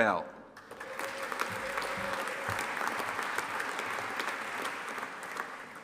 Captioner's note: audience applauding and cheering